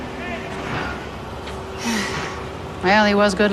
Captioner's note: sighs